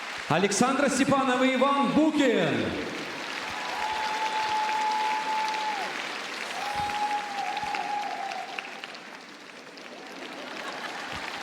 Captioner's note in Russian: аплодисменты